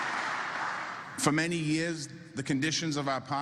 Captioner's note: applause